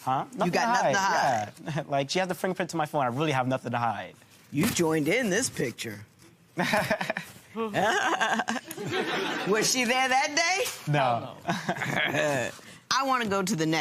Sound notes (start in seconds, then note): 6.6 imitates laugh; 7.1 laughs